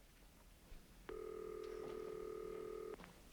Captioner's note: ringing